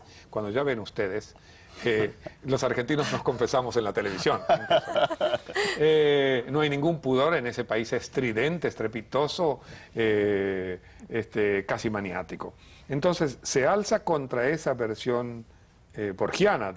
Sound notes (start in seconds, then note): 4.0 risas